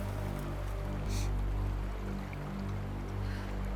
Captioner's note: sniffles